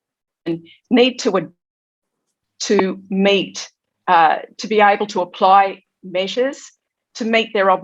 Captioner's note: audio distorted